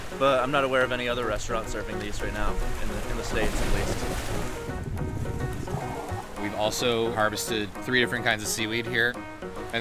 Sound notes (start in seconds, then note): 5.1 water gurgling